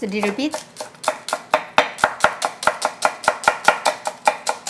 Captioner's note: knife chopping